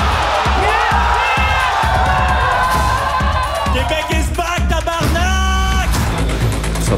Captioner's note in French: cris de joie